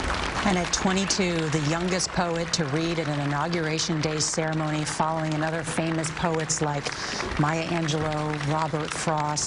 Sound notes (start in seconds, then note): 6.7 applause